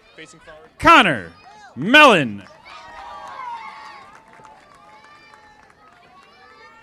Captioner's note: audience applauding